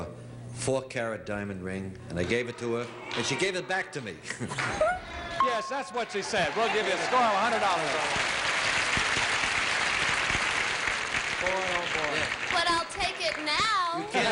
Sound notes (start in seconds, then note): 6.1 applause